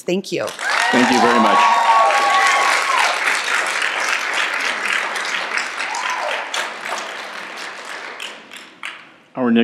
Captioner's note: applause and Cheering